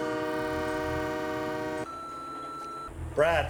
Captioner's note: train Horn Blaring; machine Beeps